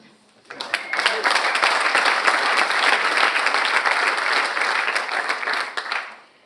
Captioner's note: audience applauds and cheers